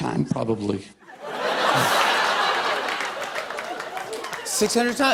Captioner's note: laughter